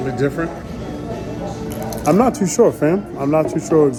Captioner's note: chip crunching